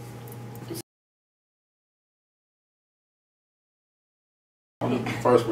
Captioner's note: silence